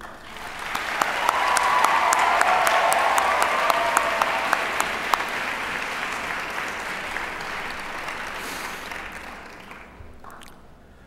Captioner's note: applause